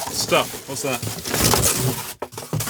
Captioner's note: paper tearing